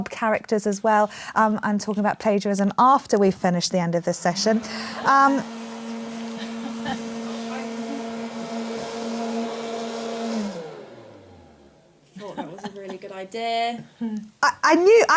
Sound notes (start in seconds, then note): 4.8 whirring